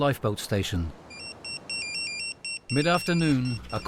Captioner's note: phone chiming